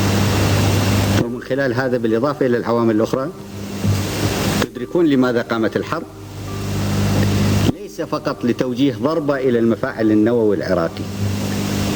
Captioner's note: noises of the staff leaving